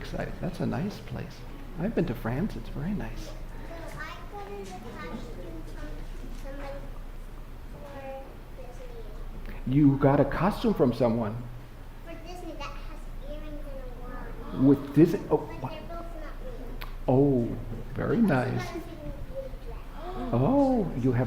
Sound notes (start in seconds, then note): 2.5 speaker off microphone